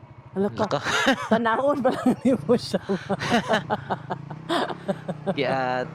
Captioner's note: laughing the steepness of the road ahead